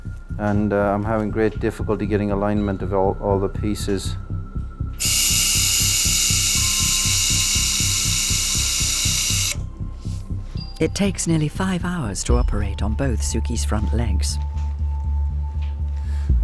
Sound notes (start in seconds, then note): 5.0 tool whirring